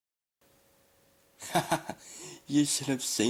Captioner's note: laughs